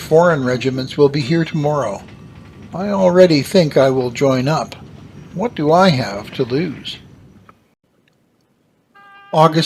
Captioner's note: ship bell rings